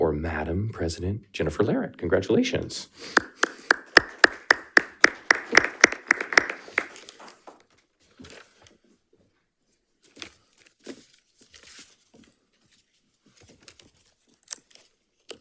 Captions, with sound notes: or Madam President Jennifer Laret. Congratulations. (people clapping) (papers whirring)